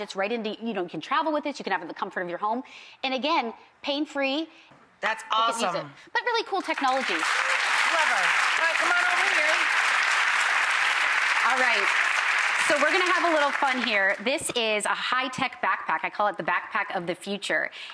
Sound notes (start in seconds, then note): 7.2 clapping